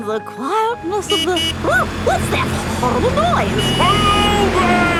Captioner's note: honking